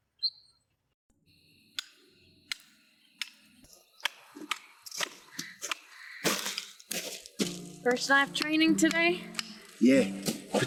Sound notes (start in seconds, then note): 1.5 approaching footsteps; 1.5 rock pounding as hammer